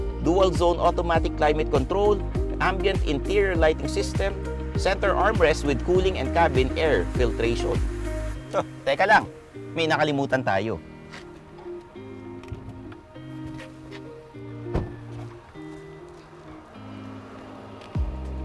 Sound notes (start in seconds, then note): 14.6 door thuds